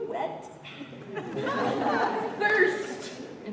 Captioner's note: laughter